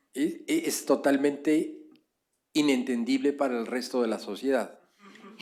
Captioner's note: speaking spanish